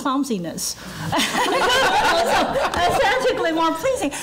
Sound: laughing

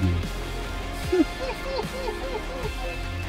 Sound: maniacal laughter

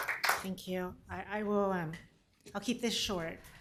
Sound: applause

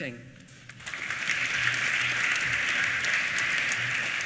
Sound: applause

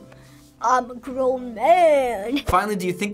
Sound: in deep voice

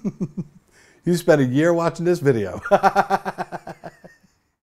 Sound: laughs

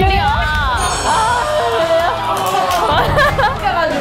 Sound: loud applause; applause / Respect

